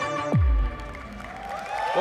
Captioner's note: applause